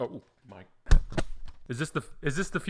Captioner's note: headset thuds